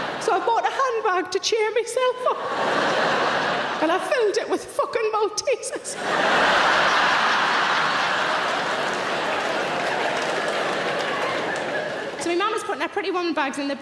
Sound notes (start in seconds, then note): 0.0 audience laughing; 2.3 audience laughing; 5.9 audience laughing; 6.4 audience applauding